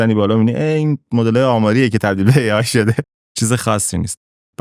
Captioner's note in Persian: خنده